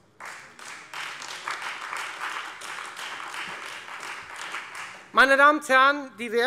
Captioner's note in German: Beifall